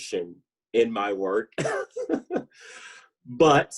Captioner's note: laughs